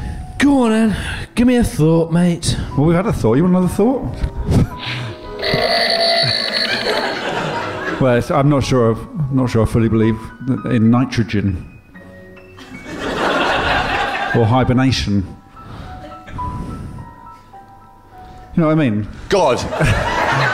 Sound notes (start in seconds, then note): 5.0 sfx: spring + ruler twang